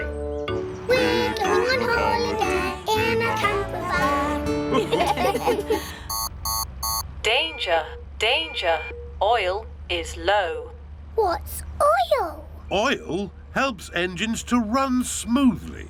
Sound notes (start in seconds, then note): 4.6 laughter; 6.0 beeping